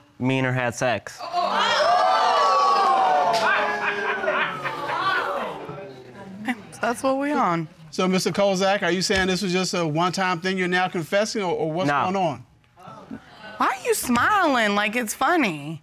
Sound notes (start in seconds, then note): 1.2 audience exclaiming